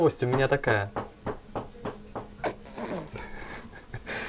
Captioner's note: knock on the door